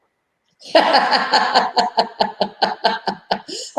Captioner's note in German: Lachen